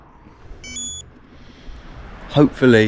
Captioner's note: watch beeps